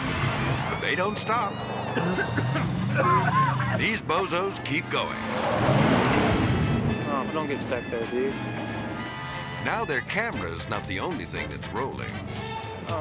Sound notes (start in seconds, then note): 2.0 person coughing; 5.3 engine revving; 5.3 whimsical jazz music